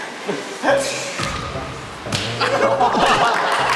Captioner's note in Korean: 찰싹